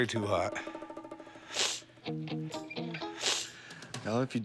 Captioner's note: sniffling